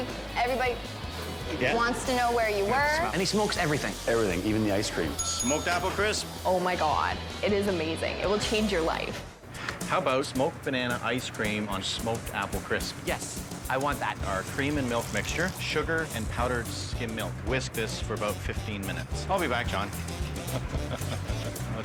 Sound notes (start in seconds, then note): 5.1 bell dings; 19.8 laughs